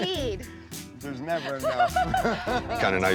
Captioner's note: laughter